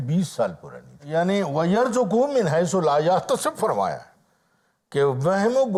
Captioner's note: Arabic